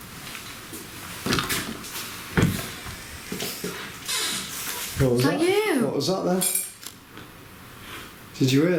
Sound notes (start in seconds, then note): 4.0 door creaks